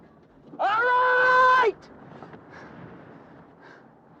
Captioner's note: yelling